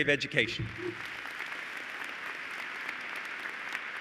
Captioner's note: applause